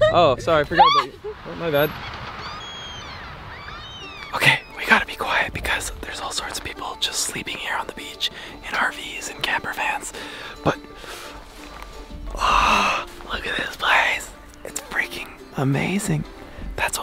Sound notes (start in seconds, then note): 2.5 birds squawking